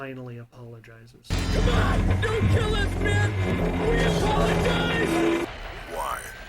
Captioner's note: sounds of metal crunching and glass shattering